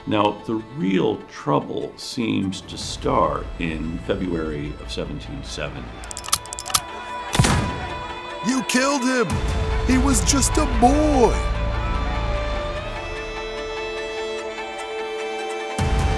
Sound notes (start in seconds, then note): 7.3 gun shoots; 12.2 dramatic foreboding music